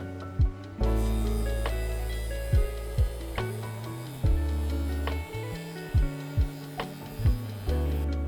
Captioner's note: cutting wood